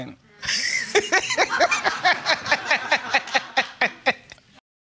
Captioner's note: laughing